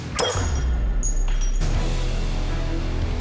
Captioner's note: clattering